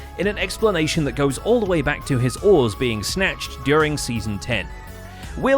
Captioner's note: none